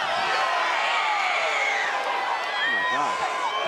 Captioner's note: crowd cheers